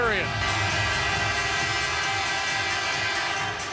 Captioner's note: horn